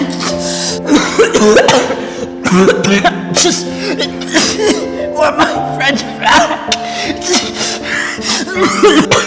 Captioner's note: coughing